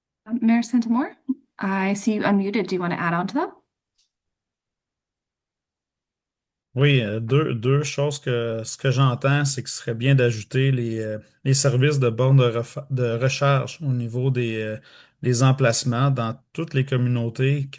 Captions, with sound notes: - Mayor St-Amour, I see you unmuted. Do you want to add on to that? [French] Yes, two things. What I'm hearing is that it would be good to add charging station services at locations in all communities,